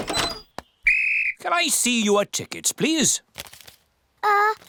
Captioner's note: blows whistle